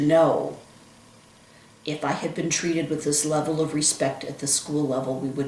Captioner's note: none